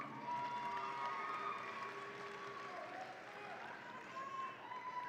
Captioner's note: audience applauds and cheers